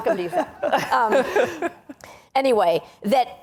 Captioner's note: laughing